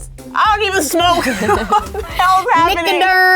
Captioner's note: laughing